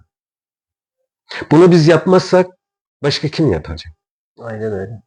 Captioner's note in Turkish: homurdanır